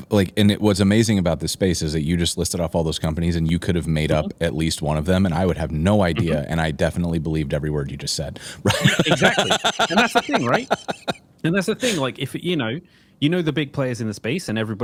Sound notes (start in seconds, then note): 8.6 laughs